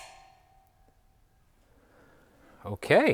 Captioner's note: drill whirring